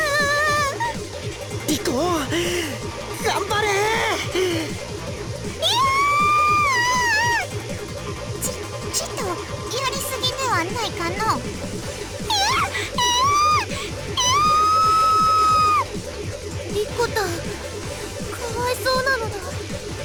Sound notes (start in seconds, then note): 0.0 sob; 5.6 panicked cry